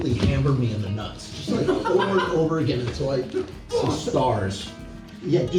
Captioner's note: laughs